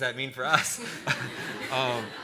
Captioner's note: laughter